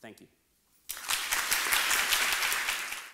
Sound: applause

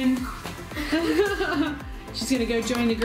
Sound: laughter

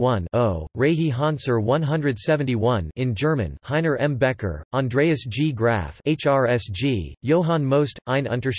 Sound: in German

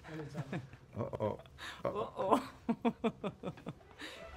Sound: both Laugh

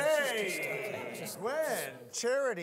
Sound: audience laughing

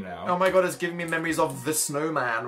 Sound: none

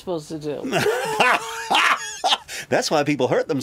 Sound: laughs

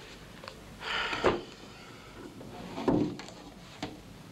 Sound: Mac sighs

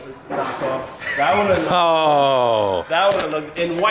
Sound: laughs

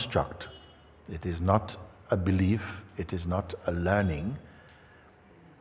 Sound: none

